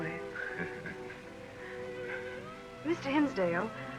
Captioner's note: laughs